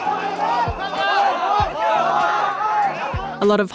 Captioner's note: shouting